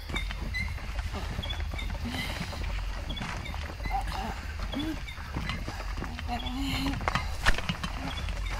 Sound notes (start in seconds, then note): 0.6 wheelbarrow speaks and rumbles; 2.0 struggles for breath